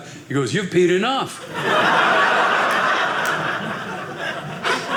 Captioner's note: audience laughing